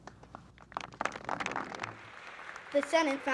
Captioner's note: applause